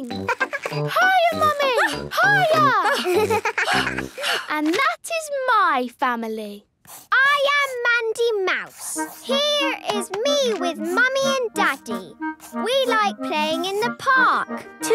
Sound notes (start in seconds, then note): 0.1 giggles; 2.8 panting